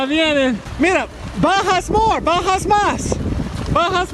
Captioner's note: in Spanish